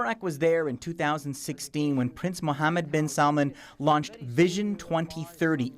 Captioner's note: speaking alternate language